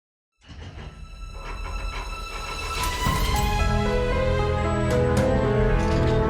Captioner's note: dramatic orchestral music; door lock clanking